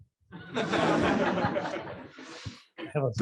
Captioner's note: laughter